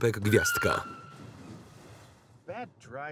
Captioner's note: car brakes